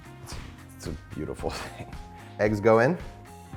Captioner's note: chuckles